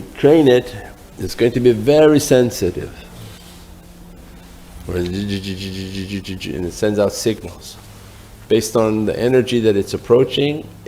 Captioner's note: buzzing